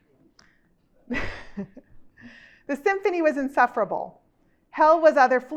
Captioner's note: chuckles